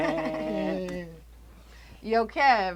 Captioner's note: Kev and Terra chuckling